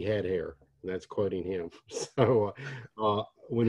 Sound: laughs

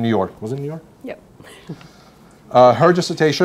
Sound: laughs

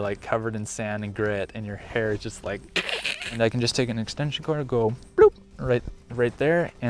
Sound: bloop

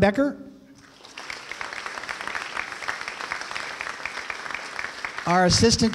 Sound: applause

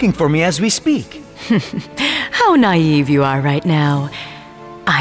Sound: laughs menacingly

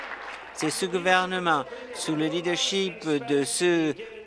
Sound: applause

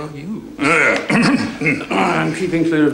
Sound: clears throat

